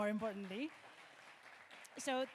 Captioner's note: audience clapping